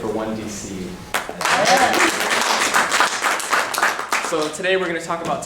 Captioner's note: clapping and cheering